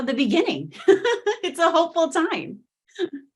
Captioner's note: laughing